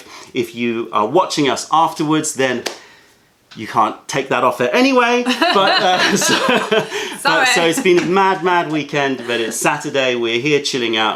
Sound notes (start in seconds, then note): 5.2 laughter